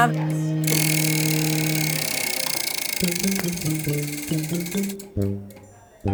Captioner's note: wheel clicks and bouncy music